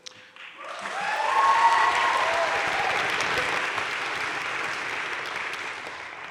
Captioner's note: crowd cheering and applauding